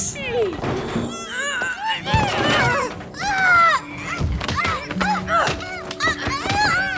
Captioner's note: both straining, grunting